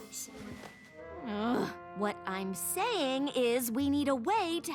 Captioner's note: groan